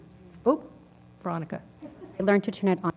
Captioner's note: laugh